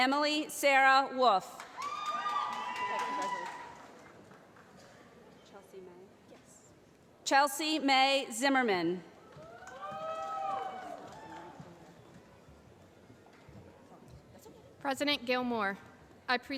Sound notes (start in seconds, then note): 1.6 cheering; 9.3 applause